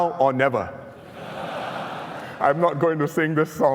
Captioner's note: laughter